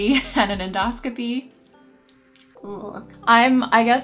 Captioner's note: chuckling; scoffing